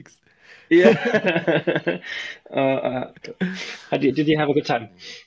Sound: both laughing

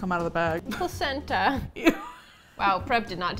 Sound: laughs

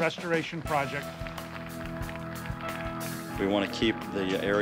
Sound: applause

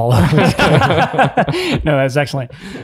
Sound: group laughs

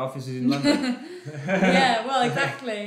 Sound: both laugh

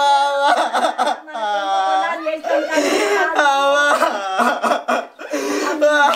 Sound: crying continues

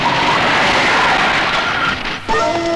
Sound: brakes squeal

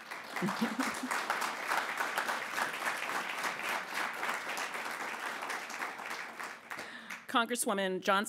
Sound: appplause

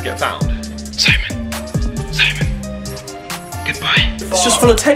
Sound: whispering

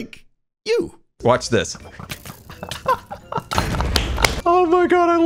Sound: laughs; totem pops; applauds

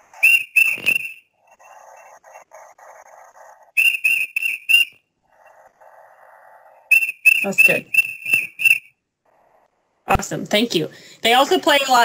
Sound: sound effect

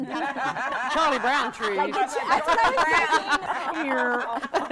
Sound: all laughing

